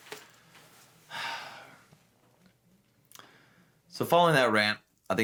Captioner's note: sighs heavily